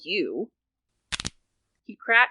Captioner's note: fingers cracking